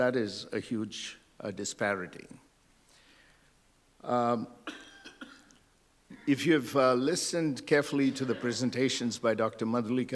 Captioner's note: laughter